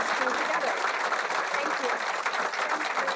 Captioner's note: audience applauding